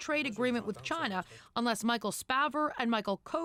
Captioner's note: speaking french language